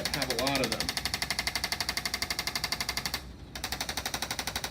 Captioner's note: tool vibrates noisily